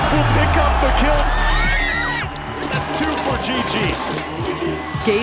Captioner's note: screams